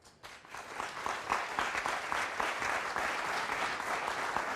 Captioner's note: audience applauds